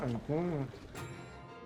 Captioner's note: over tv